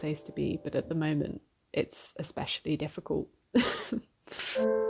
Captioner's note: laughs